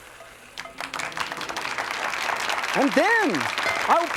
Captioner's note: sizzles; audience claps